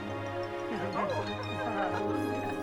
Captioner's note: laughing